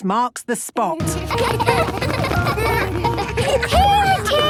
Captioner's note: laughter